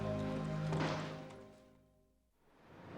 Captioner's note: horn blaring